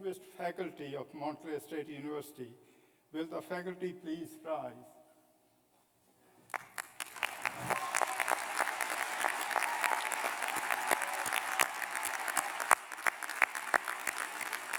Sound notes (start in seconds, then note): 4.2 applause